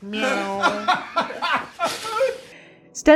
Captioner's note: hiss